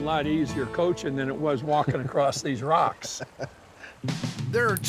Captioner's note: laughing